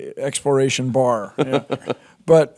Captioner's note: Jordan laughs